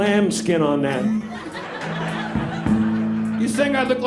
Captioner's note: people laughing